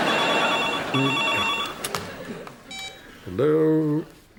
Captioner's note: phone rings